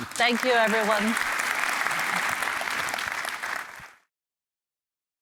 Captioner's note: applause